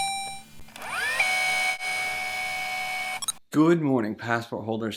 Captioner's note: tape rewinding; robotic ding